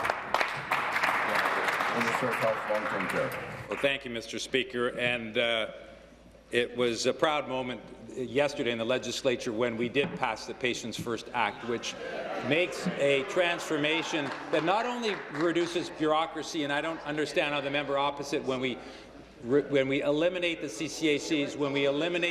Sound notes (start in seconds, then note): 4.1 applause